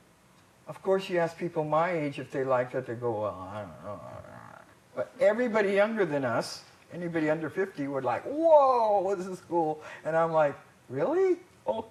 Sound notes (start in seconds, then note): 3.6 mumbling